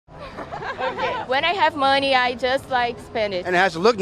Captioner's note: laughter